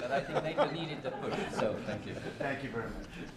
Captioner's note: laughter